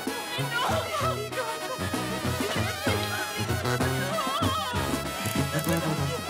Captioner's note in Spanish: Sollozos y lamentos de la familia de Trino